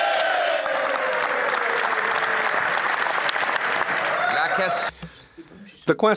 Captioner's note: applause